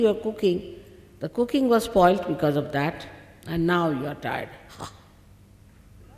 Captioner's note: shri mataji exhales - ha